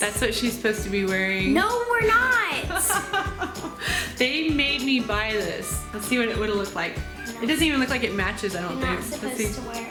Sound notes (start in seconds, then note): 2.7 laughs